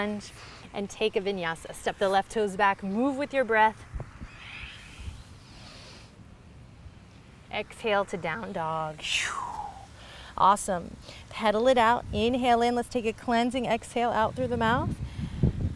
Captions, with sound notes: and take a vinyasa. Step the left toes back, move with your breath. Exhale to down-dog. (exhales forcefully) Awesome. Pedal it out. Inhale in. Let's take a cleansing exhale out through the mouth.